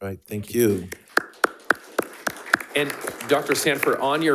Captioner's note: attendees applauding